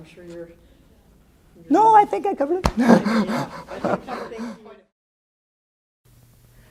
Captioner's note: laughing